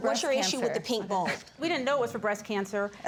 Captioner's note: scoffs